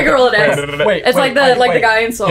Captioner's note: laughing